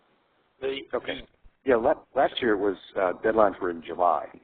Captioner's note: voiceover